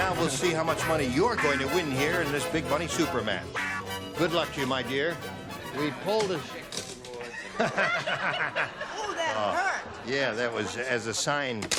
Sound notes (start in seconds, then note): 9.4 laughs